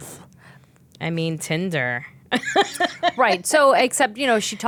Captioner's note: laughing